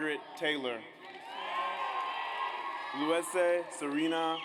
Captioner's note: audience cheers